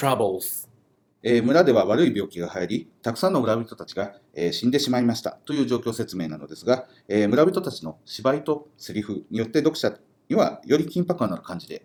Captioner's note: speaking Japanese